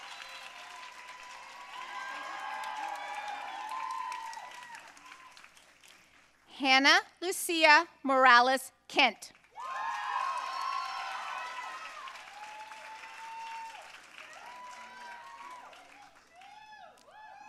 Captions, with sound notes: Hannah Lucia Morales Kent. (audience cheering and applauding)